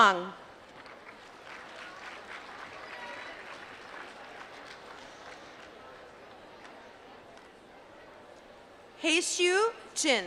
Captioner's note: applause